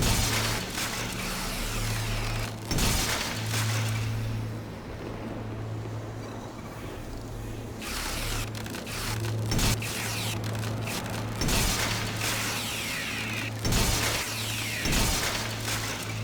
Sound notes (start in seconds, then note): 0.0 suspenseful music; 3.4 gunshots